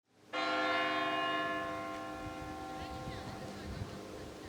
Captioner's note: church bell rings